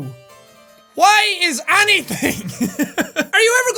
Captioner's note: laughs